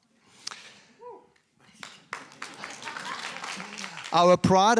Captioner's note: applause